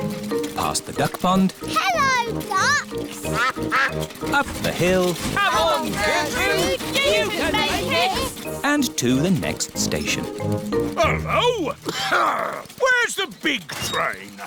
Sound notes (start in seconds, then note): 3.3 quacking; 10.9 coughs